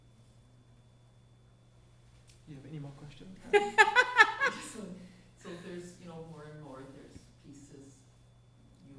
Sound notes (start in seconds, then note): 3.5 laughing